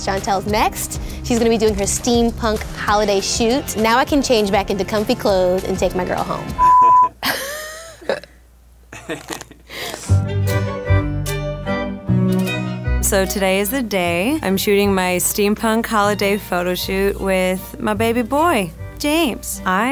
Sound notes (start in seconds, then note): 6.6 coughing; 10.4 renaissance music